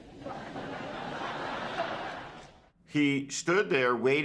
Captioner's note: crowd laughs